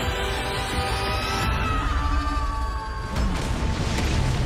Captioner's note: yells